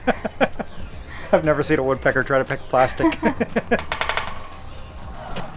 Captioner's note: laughter